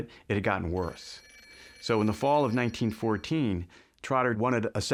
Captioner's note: telephone rings